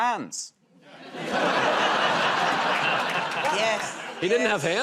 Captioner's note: laughter